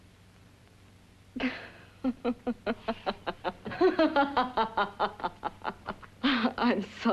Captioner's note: Doris laughs